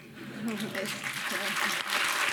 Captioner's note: audience laughing; audience applauding